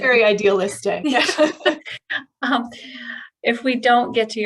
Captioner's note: laughter